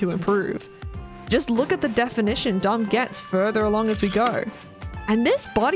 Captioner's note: projector slide click